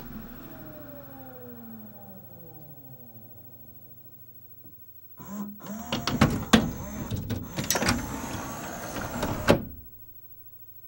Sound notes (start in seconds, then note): 0.0 disc whirrs to a stop; 5.6 mechanical noises as transport shuffles; 7.8 loud whirr as tray moves